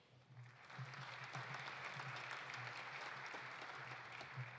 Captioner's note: audience applauding